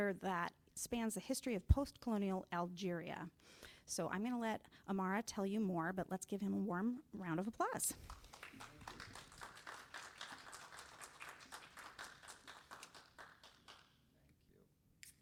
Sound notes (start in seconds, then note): 8.0 audience applauds